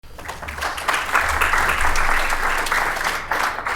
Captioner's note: applause